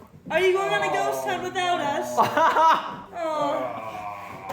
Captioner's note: laughs